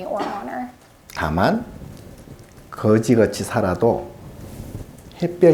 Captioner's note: speaking Korean